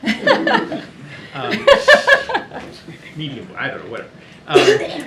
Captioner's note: laughter